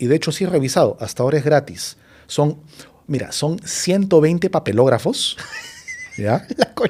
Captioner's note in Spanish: risas